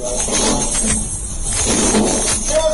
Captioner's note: crashing